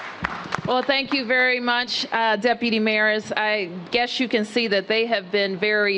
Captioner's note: applause